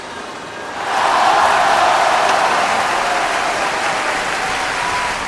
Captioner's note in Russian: звук аваций